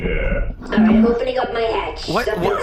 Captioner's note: hatch opening klaxons play